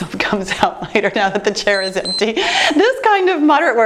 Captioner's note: timer beeps